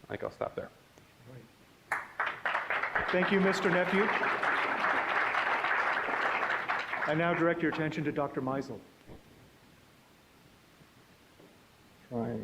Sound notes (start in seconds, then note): 1.9 applause